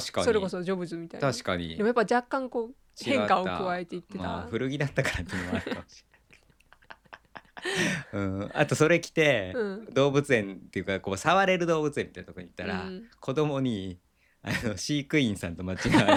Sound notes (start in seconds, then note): 5.0 laughs